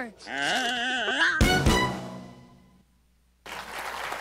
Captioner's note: squeals